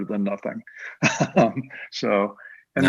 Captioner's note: laughs